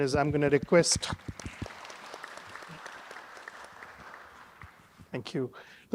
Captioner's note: audience applauding